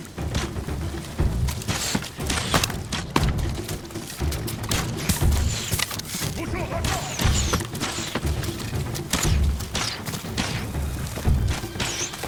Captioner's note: gunshots